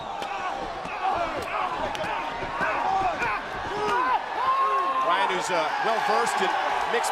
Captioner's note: crowd cheering